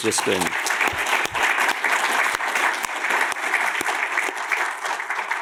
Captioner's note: applause